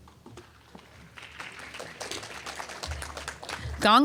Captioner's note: applause